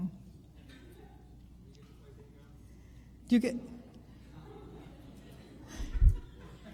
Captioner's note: chuckles